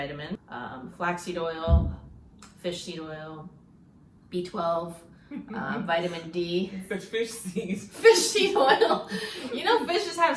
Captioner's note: giggles